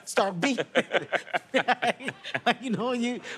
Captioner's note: both laughing